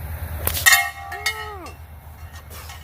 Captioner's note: sling snaps; metal rings loudly; exhales